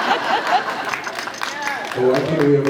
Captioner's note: laughs